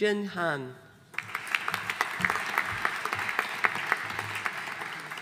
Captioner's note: audience applauding